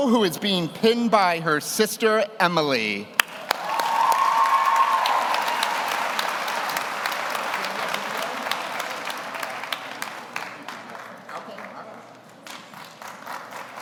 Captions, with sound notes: who is being pinned by her sister Emily. (audience cheers) (audience applauds)